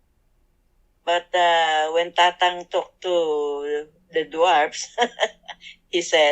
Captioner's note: laughs